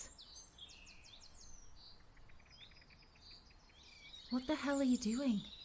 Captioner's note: birds continue chirping